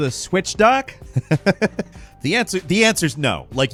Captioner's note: laughs